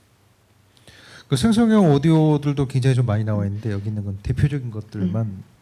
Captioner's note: speaking korean